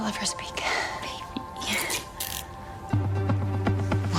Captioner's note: cuffs clicking